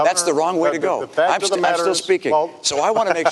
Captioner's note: chuckles